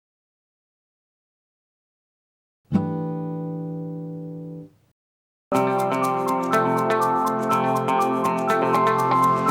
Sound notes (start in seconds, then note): 3.2 chime sounds; 5.5 upbeat music